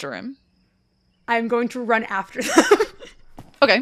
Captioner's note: laughs; quick footsteps begin in the background